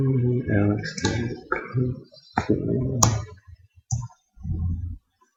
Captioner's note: mumbling to self